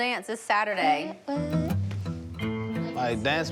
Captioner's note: humming